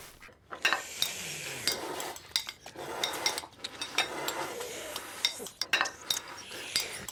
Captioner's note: ducks quacking; slurping and gulping; utensils clinking